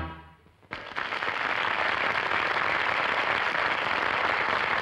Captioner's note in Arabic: الحشد يصفق